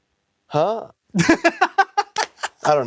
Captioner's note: laughs